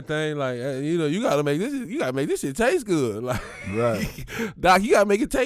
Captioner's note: laughs